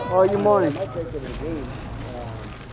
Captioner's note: voiceover